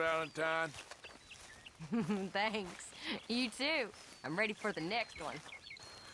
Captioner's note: laughs